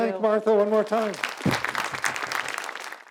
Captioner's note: audience claps